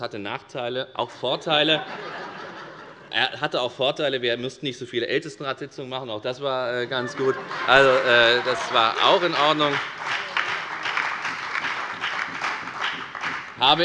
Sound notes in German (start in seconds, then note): 1.5 Allgemeine Heiterkeit; 6.8 Allgemeine Heiterkeit - Beifall bei der FDP und der SPD